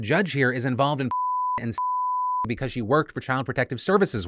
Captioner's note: beeps